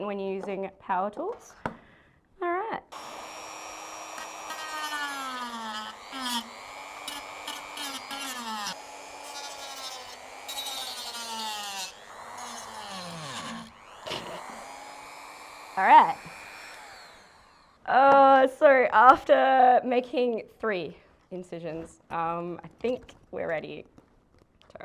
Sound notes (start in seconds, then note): 9.8 grinding of power tool